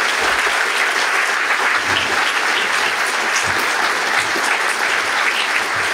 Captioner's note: applause